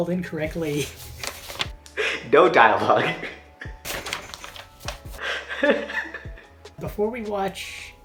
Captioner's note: laughs